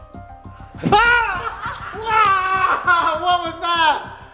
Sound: screaming

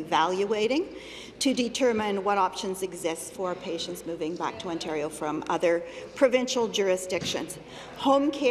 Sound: none

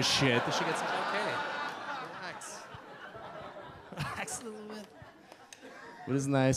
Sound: audience laugh

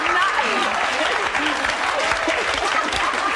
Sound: applause; audience laughs

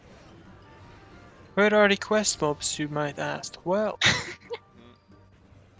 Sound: haha

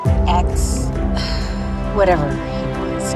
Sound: sigh

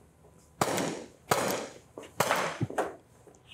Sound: gunshots

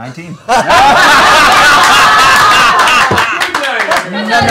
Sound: laughter

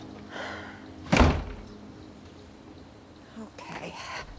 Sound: door slams

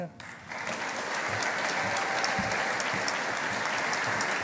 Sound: audience applauding

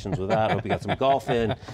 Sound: laughs

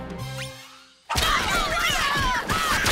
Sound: yelling

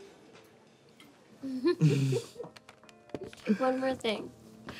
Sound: both chuckle

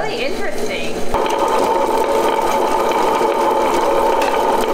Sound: melanger whirring

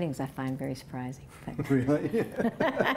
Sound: laughter

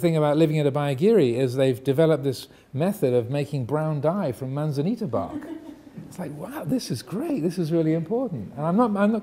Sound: audience laughing

